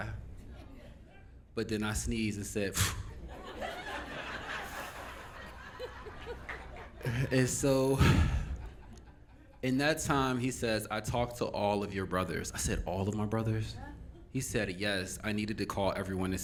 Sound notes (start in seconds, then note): 3.1 audience Laughing